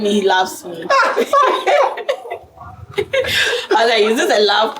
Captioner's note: laughs